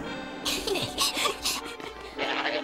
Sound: laughing

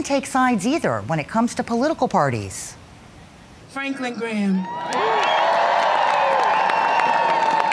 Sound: cheers and applause

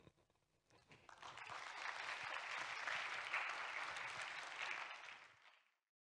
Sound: applause

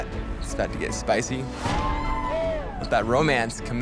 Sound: people cheer

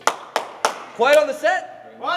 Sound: clapping

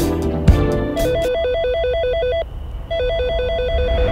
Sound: phone ringing

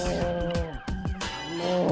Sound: groaning

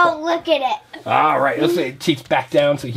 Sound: voiceover

